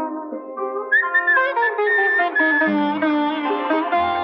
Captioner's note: Whistles